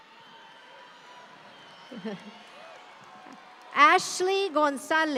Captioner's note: audience cheering continues